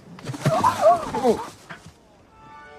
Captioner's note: yelps